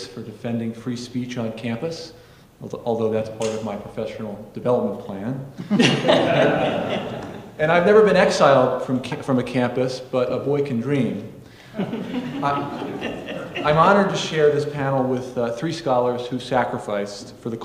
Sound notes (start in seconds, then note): 5.6 audience laughing; 11.7 audience laughing